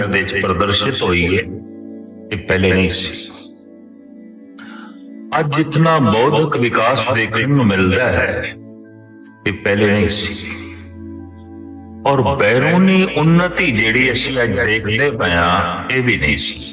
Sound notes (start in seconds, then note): 8.5 sound of clearing throat